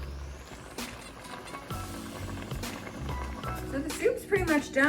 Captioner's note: louder bubbly boiling sounds